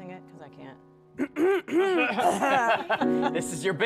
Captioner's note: clears throat; laughter